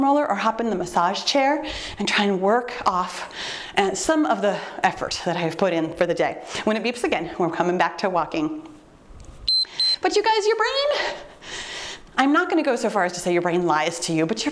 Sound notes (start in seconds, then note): 9.4 timer beeps